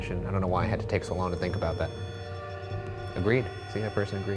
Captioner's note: REM-pod beeping